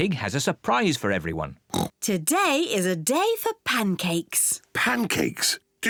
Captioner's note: oinks